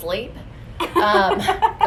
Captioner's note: laughs